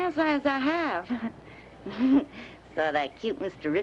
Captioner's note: chuckling